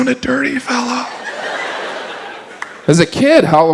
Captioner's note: audience laughs